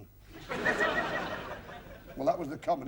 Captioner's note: laughter